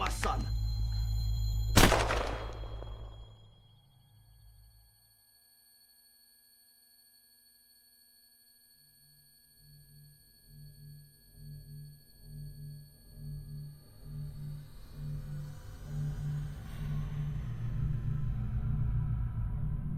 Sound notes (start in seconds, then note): 4.4 gunshot